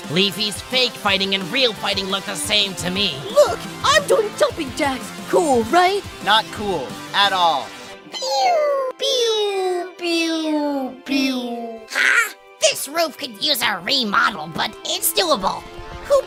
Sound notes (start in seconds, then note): 7.7 cartoonish falling sound effect from Season 1 plays